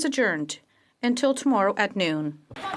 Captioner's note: speaking French